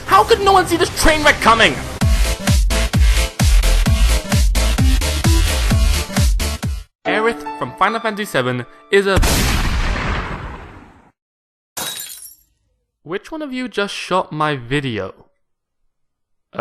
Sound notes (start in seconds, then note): 9.2 gunshot